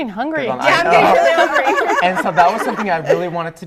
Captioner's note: laughing; laughter